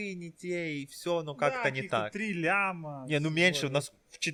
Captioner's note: sarcasm